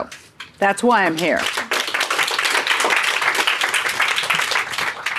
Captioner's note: audience clapping